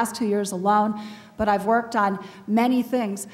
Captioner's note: none